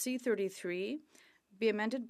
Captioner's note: speaking French